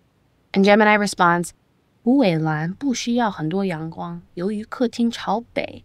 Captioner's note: speaking chinese